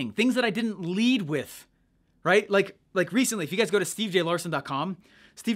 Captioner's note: none